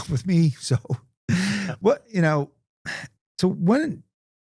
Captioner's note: laughing